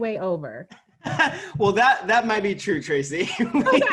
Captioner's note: laughing